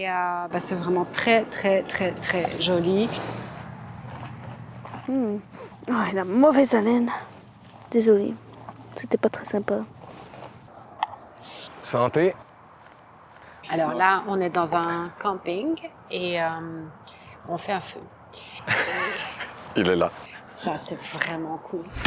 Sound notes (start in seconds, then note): 18.6 laughs